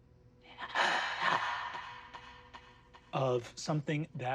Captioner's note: an echoed gasp